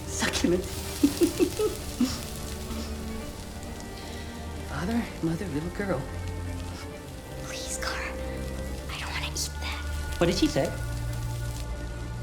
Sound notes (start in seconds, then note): 0.8 giggle; 7.6 whisper